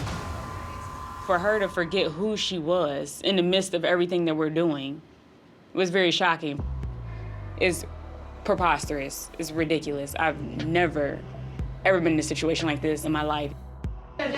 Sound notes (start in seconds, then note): none